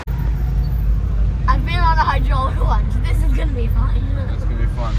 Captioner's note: coaster